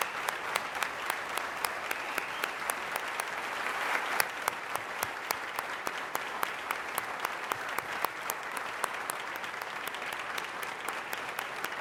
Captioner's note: applause